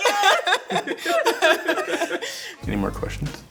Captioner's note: all chuckles